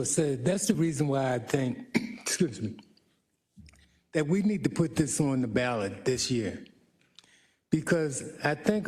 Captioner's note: cough